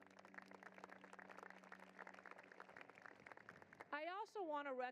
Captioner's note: applause